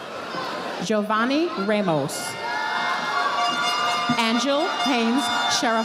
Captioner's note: audience applauding